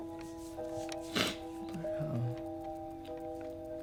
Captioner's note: sniffles